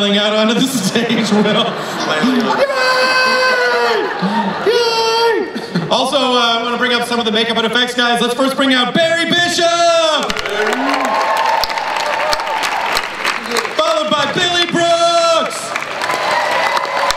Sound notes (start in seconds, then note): 0.6 chuckles; 2.4 imitates crowd cheers; 10.1 crowd applauds